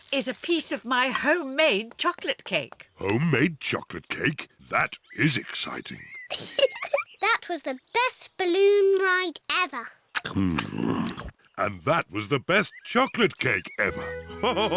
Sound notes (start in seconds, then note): 6.0 giggles; 14.4 all laughing